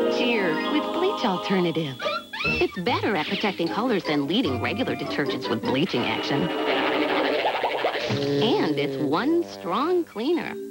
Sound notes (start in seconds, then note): 5.9 cartoon "double-take" sound effect; 7.9 sad trombone